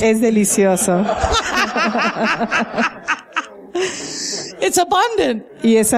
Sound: laughter

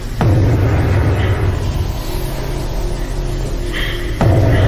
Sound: heavy breathing and sobs

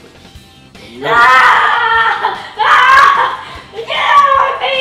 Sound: playful yelling

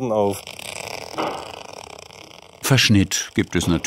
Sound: tearing noise

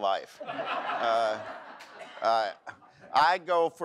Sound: audience laughs

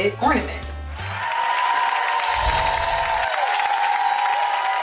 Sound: applauding

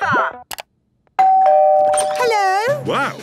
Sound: doorbell ringing

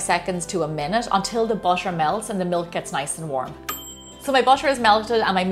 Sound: ding!

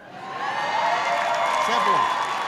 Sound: applause

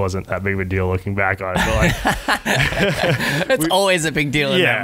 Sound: laughing

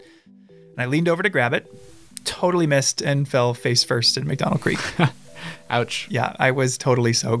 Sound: laughs

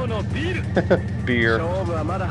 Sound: laughs

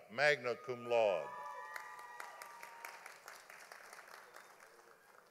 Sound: audience applauding

